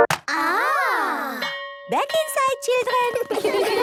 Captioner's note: clicks, music plays; school bell